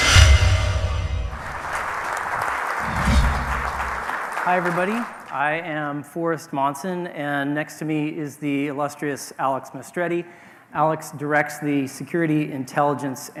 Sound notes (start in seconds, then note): 1.4 audience applauding